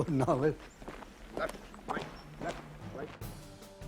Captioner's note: voiceover